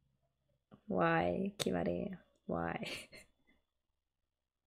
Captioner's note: laughs